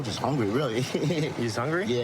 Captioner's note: laughing